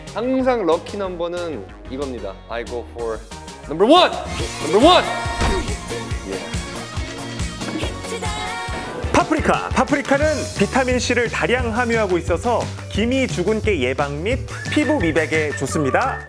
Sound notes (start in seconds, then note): 7.2 pit-a-pat